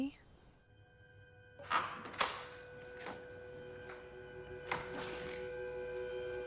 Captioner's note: eerie electronic music; door clicks and thuds